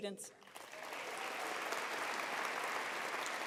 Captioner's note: applause